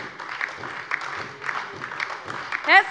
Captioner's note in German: Beifall DIE LINKE und SPD